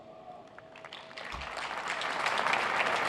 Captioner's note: cheers and applause